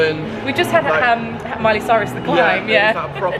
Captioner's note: laughs